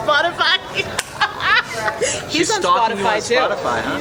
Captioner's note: laughing